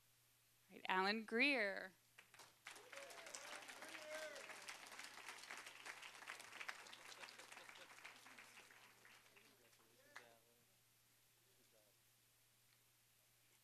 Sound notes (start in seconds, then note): 2.1 applause